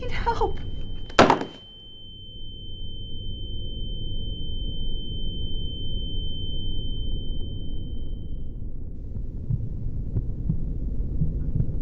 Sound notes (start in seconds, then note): 2.2 long beep